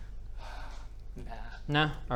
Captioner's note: sigh